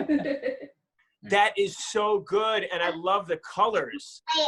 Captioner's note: chuckling